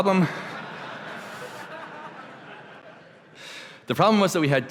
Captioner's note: laughter